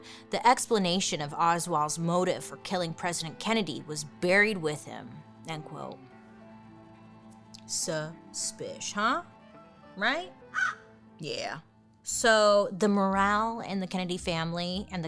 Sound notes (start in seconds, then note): 5.6 gentle somber music; 10.5 crow caws